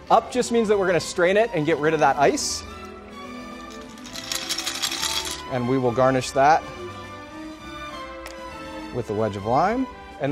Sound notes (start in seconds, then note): 2.6 quirky orchestral music; 3.6 ice shaking; 6.6 quirky orchestral music